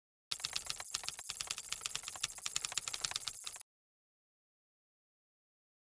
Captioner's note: keyboard continues clacking